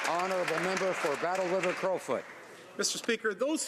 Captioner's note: some Applause